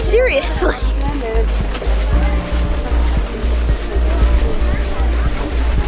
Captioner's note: crowd walking and talking